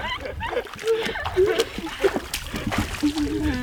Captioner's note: laughing; water splashes